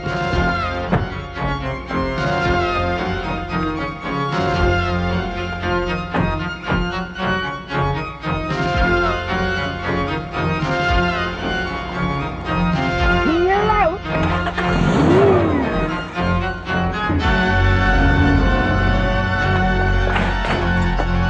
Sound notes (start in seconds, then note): 13.9 engines revs; 17.9 ominous sci-fi music